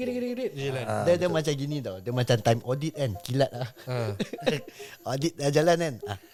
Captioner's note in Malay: ketawa